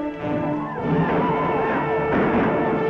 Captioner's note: Indian calls and gun shots